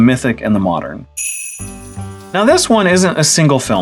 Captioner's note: sleigh bells